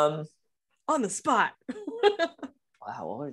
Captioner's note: laughs